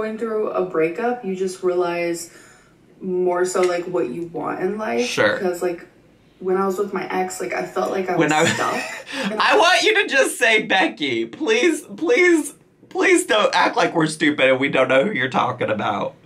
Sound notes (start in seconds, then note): 9.2 laughing